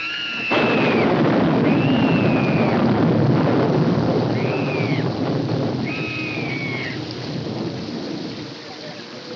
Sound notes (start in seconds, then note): 0.0 screaming, sobbing continues; 0.2 thunderclap; 5.8 screaming continues